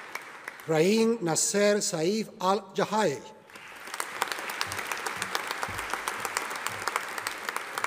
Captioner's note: audience applauding